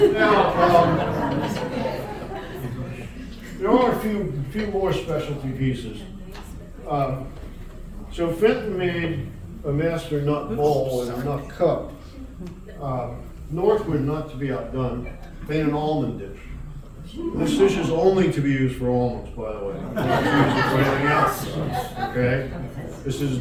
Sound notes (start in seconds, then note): 19.7 audience erupts into laughter